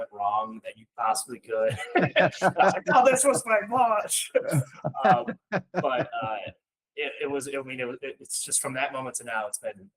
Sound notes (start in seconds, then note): 4.5 laughing